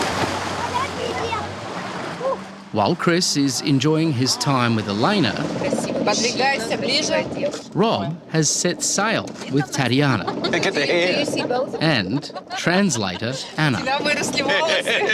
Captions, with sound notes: (CHILDREN CHATTER) Ooh. While Chris is enjoying his time with Yelena,... (SPEAKS UKRAINIAN) ..Rob has set sail with Tatiana... (LAUGHS) Look at the hair. ...and translator Anna. (SPEAKS UKRAINIAN) (LAUGHS)